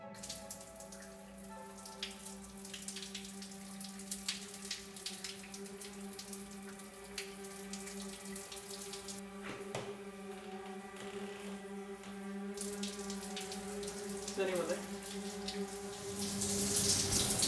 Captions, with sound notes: [sound of water in shower] [sound of door creaking open] Is anyone there?